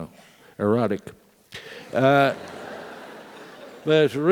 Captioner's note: laugh